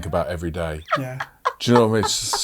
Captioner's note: laughing